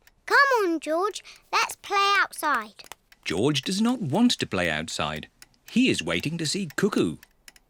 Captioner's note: none